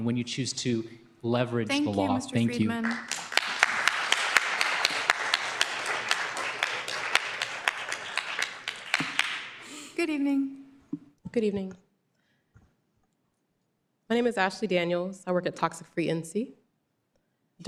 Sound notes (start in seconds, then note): 4.3 applause